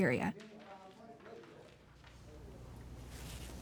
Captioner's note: talking in background